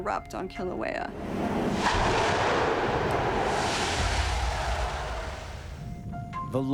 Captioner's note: explosion echoes